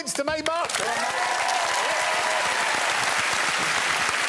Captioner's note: cheering and applause